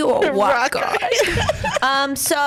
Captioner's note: laughs